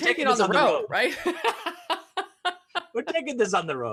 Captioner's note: laughing